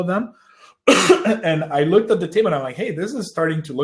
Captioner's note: coughs